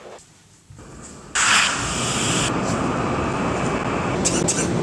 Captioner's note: wind whooshes; wheezes